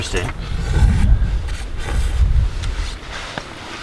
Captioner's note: slurping noises